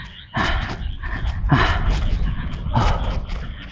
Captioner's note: panting